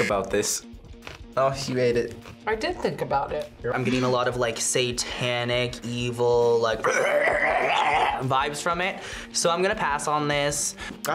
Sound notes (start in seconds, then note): 6.8 gurgles